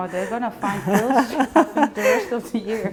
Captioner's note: laughing